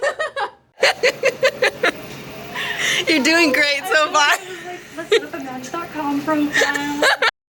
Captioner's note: laughs